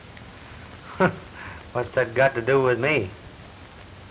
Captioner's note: laughs